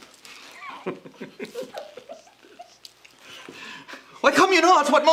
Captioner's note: Margaret and Clifford laugh scornfully